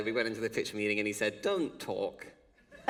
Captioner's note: laughter